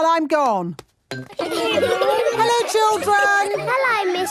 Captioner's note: laughter